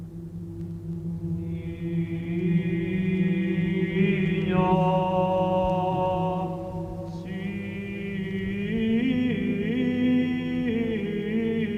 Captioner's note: chanting